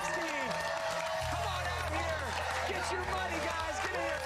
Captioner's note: cheers and applause